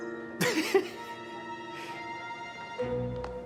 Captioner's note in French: homme gloussant